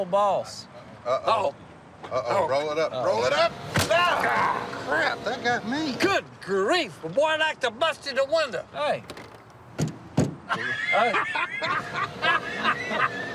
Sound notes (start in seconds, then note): 9.7 knocking; 10.4 laughter